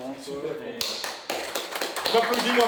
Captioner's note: applause